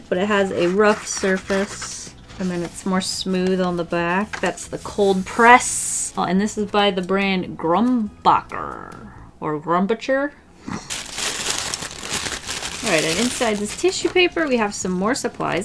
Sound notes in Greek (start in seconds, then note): 10.8 Ήχος περιτυλίγματος